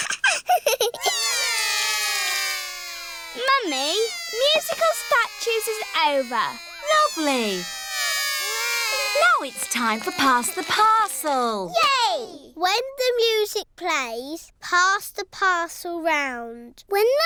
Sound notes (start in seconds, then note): 0.0 laughs; 1.2 all cry